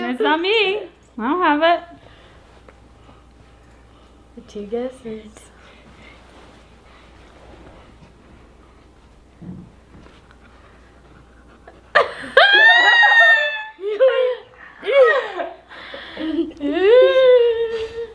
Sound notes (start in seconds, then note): 11.5 laughs